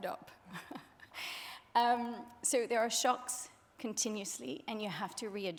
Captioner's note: chuckling